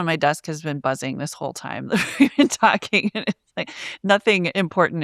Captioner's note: chuckles